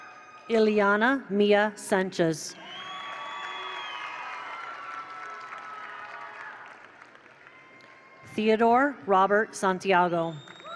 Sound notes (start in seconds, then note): 2.6 attendees cheer; 2.6 attendees applaud